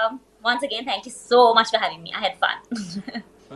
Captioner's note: laughs